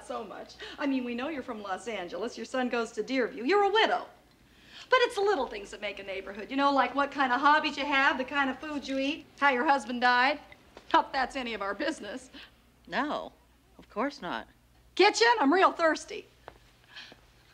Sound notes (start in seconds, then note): none